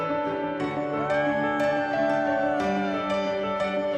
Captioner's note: cheering